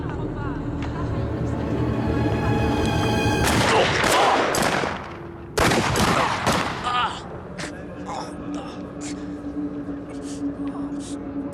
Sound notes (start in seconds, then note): 3.4 gunshots; 6.2 jackie groans